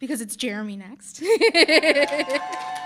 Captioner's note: laughing; audience cheering and applauding